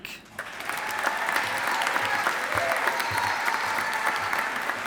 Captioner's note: audience applauding